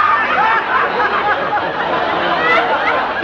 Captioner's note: laughter